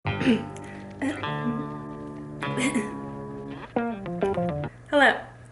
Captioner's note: coughs; upbeat music